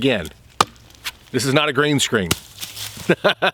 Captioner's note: laughs